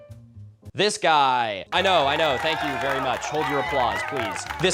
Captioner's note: Wii sports cheering